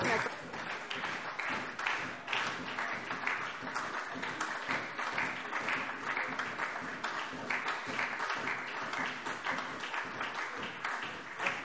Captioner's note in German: Anhaltender Beifall SPD - Lachen CDU und BÜNDNIS 90/DIE GRÜNEN